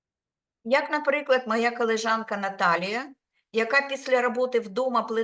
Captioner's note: speaking Ukrainian